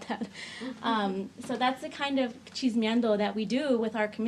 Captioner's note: speaks in foreign language